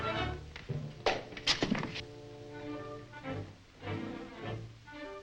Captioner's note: door opens